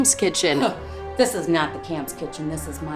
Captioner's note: scoffs